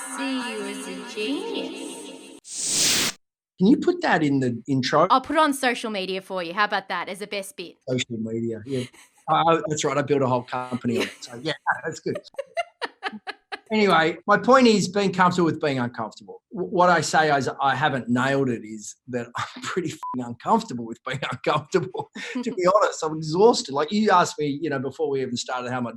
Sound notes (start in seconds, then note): 20.0 beep